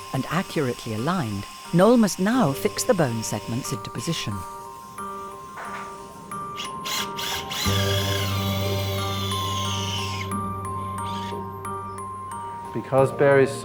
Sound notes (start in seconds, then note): 6.0 gentle music; 7.6 drill buzzing; 10.9 gentle music